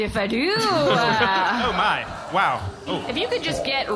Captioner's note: spraying water sounds